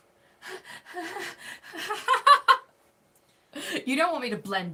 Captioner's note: laughing